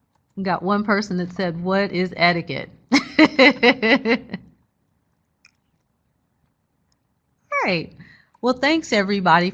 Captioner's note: laughs